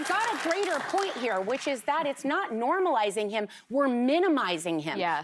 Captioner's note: applause